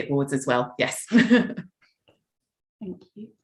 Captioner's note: chuckles